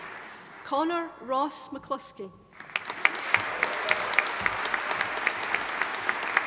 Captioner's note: audience applauding